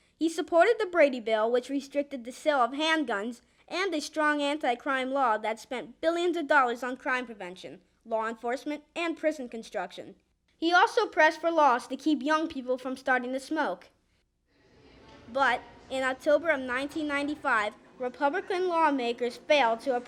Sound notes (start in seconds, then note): none